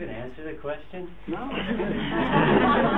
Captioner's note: audience lauging